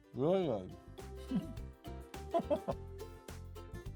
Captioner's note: laughs